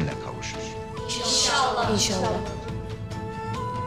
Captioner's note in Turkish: Hep bir ağızdan